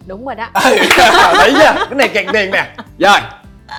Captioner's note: laugh